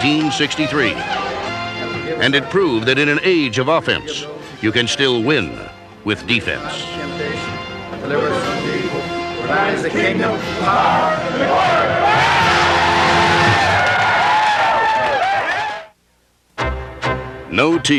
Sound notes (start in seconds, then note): 6.3 crowd cheering